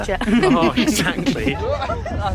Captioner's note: giggles